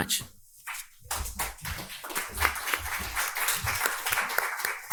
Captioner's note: audience applauding